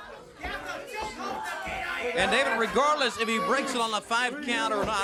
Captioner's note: crowd chatter